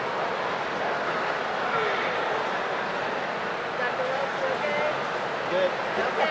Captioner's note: none